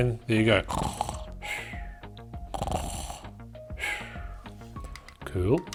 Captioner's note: snoring sounds